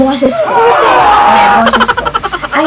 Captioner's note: screaming background